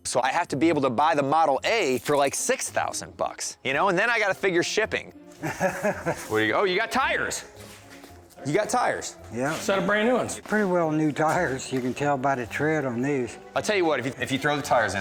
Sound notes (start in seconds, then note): 5.3 chuckling